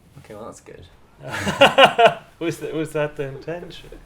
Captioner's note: man laughing